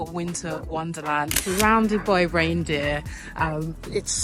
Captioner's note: camera clicks